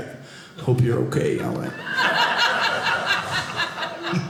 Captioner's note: audience laughing